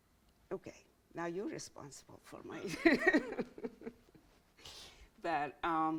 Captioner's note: laughs